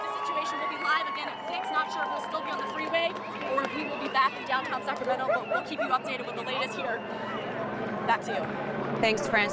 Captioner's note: sirens